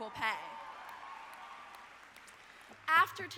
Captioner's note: audience applauding